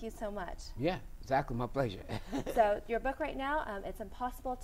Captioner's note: laugh